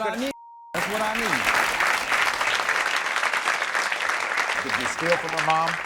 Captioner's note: audience clapping